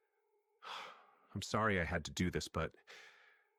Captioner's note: sigh